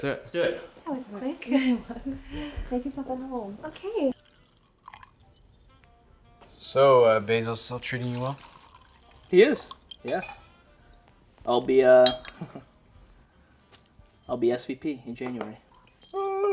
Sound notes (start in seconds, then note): 4.8 soft jazz music; 12.3 chuckling